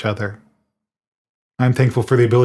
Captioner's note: none